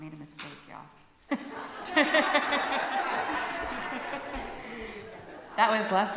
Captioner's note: loud laughter from congregation